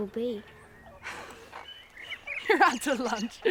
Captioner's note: laughs